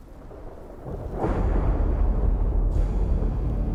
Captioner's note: thunder rolling; dramatic music